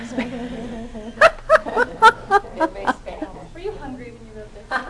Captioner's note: laughter